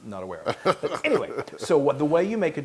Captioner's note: laugh